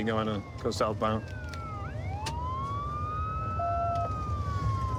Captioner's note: sirens wailing